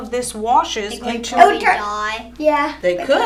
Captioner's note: children chatter